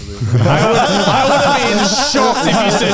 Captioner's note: all laughing